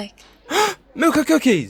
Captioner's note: gasps